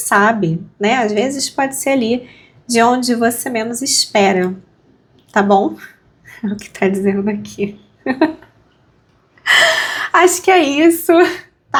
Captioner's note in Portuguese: suspirando